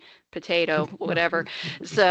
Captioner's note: laughing